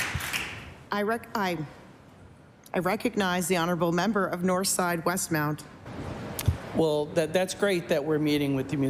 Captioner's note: applause